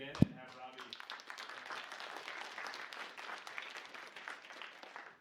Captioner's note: applause